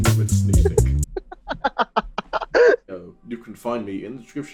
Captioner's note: laughter